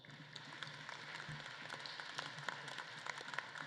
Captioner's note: audience claps